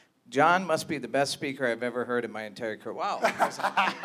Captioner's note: laughter